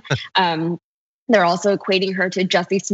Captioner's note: laugh